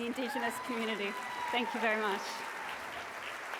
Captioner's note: cheering and applause